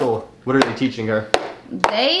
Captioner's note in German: Tasse klopft auf den Tisch